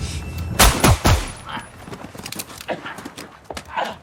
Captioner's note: gun firing